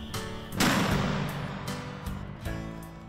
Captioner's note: gunshot